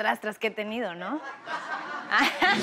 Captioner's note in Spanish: Risas